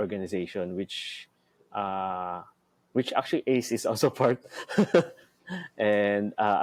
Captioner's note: laughs